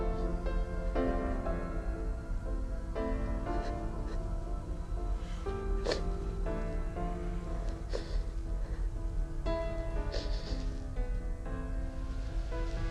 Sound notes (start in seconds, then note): 3.6 sniffles; 7.1 instrumental music